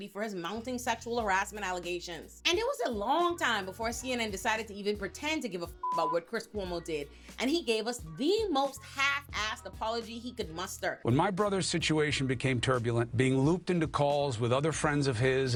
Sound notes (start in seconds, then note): 5.8 beep